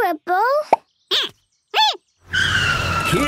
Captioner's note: squeaking